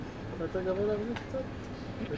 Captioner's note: hebrew